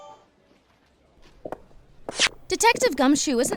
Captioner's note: footsteps